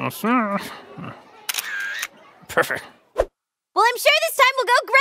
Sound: click

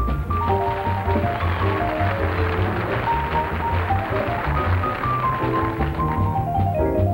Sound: audience applauding

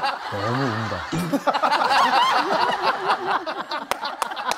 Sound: is crying so much

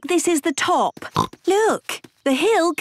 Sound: snorts

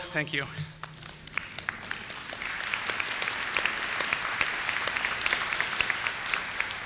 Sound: applause

